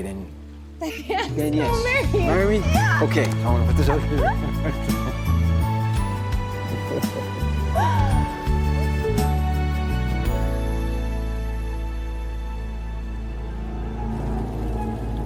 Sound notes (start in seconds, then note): 2.4 both laughing